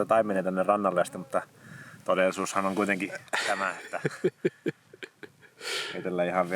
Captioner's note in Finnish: naurua